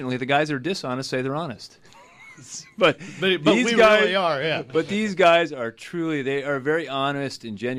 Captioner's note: group laughs